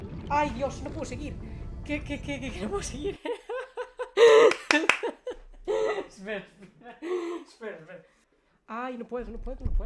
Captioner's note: laughs nervously